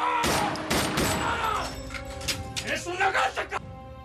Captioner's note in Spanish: grito